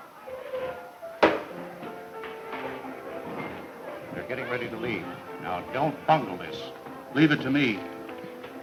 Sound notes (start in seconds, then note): 1.2 thumps